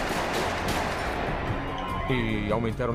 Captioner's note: gunshots